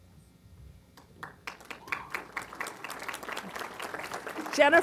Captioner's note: applause